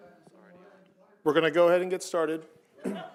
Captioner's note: murmuring